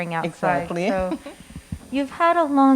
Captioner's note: laughing